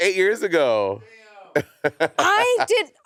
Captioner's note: Monét laughing